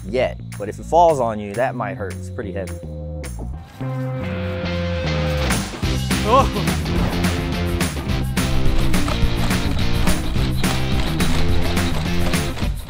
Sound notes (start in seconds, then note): 3.8 upbeat rock music; 7.9 robot walking